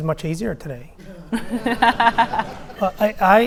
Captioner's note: audience laughing